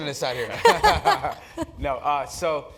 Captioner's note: laugh